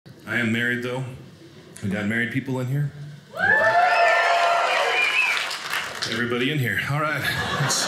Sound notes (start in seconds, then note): 3.3 audience cheers; 7.1 audience laughing